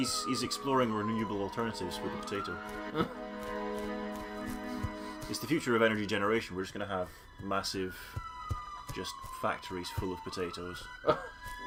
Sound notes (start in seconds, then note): 2.8 laughs; 11.0 laughs